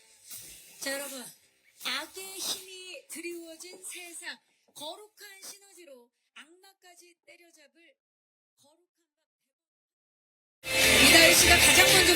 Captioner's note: silence